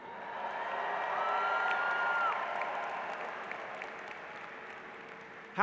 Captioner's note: applause